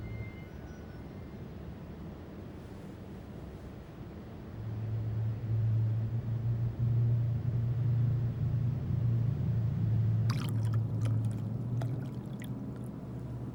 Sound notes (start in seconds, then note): 10.2 liquid trickling